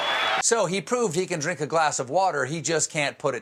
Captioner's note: cheers and applause